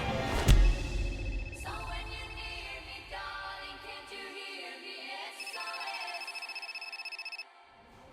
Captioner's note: phone ringing